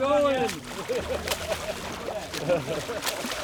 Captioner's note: laughter